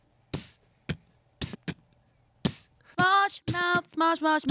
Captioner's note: beatboxing